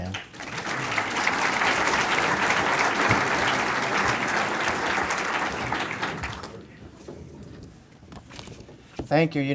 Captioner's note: applause